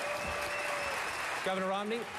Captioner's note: applause